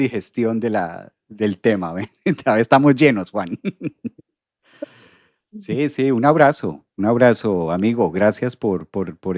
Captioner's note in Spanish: risas